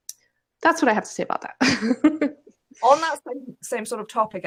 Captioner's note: laughs